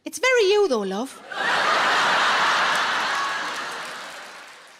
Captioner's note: audience laughing